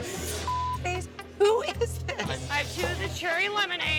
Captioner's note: beep